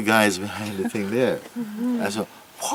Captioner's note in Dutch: zacht gelach